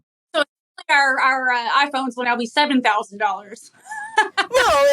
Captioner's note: laugh